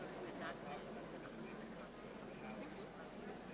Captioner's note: people talking; crowd murmuring